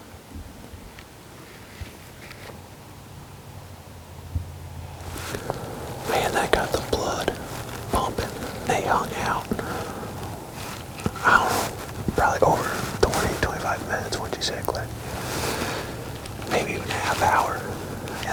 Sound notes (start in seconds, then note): 5.4 whispering